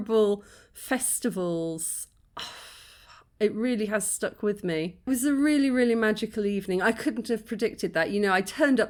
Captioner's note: sigh